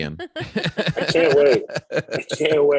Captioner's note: laughter